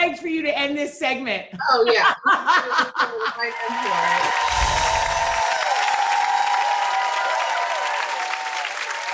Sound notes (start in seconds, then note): 1.8 laughter; 3.3 audience cheering